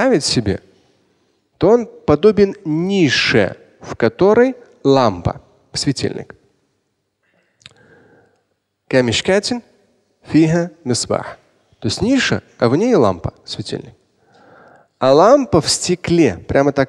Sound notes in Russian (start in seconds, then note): 6.1 Говорит на арабском